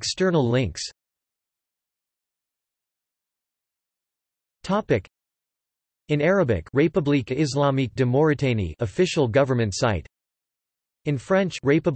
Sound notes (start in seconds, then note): 1.1 in Arabic